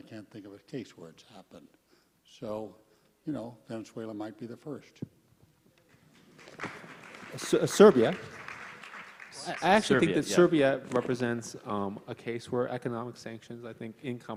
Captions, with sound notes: In fact, I can't think of a case where it's happened, so you know Venezuela might be the first. (audience applauds) - Serbia? I actually think that Serbia represents a case where economic sanctions,